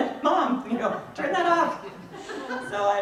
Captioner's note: people laugh